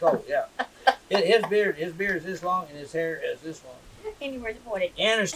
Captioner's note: laughter